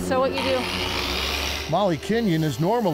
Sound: tool whirring

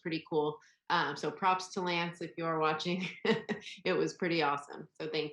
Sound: laughs

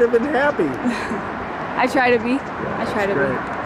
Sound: chuckling

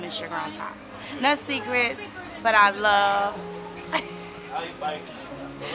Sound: laughs

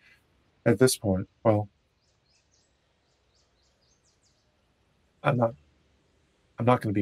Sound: chuckles

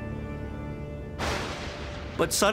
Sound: thunder crashes

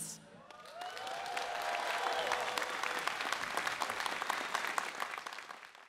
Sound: audience cheering and applauding

